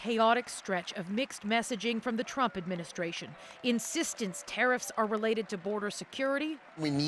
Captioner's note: applause